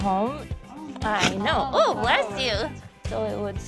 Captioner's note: dog sneezing